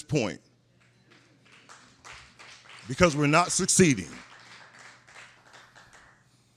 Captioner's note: scattered applause